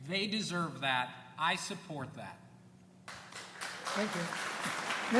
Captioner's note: applause